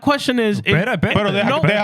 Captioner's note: speaking Spanish